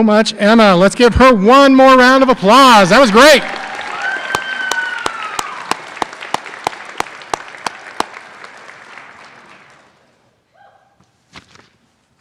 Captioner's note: applause